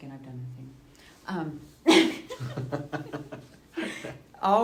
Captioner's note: laughing